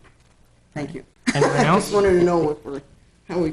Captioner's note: laughs